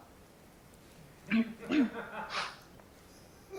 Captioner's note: clears throat